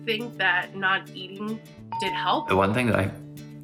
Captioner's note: bell rings